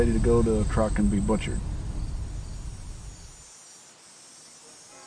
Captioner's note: waves crashing